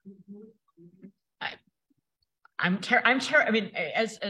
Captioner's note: person faintly chattering